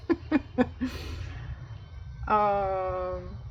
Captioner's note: laughs